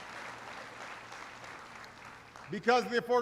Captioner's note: applause